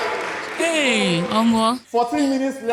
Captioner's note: exclaims in God abeg